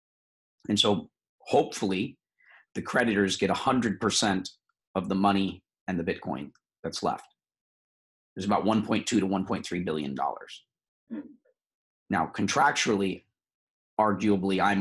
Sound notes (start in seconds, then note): none